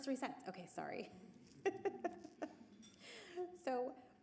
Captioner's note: laughs